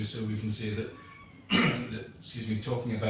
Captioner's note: coughs